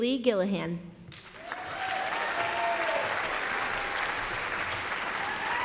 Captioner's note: applause, cheering